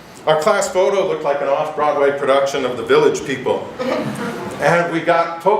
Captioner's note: giggles